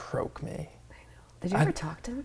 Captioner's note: whispers